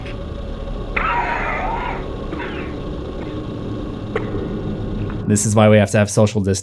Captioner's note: coughing